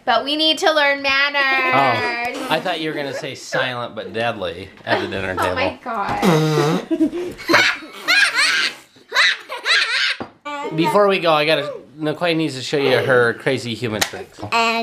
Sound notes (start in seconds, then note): 6.2 laughing; 6.2 blowing